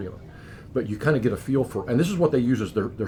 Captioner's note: laughs